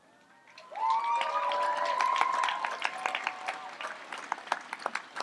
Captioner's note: audience applauds and cheers